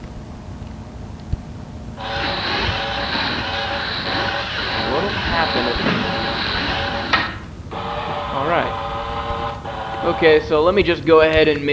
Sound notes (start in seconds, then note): 2.0 whirring sounds; 6.9 click